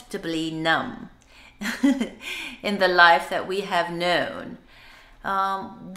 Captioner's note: laugh